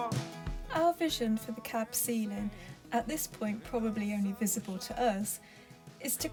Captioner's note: voiceover